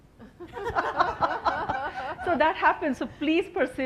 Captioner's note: laughing